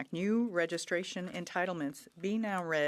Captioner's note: speaking French